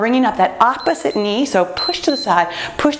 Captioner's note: timer beeps